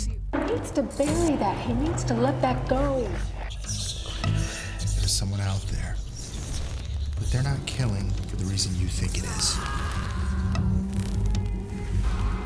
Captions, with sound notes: [gunfire pops] He needs to bury that. He needs to let that go. [eerie whispering] - There's someone out there, but they're not killing for the reason you think it is. [man yells]